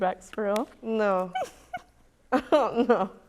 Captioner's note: laughs